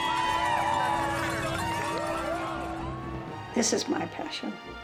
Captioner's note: cheers